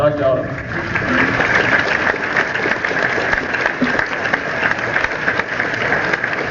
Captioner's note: applause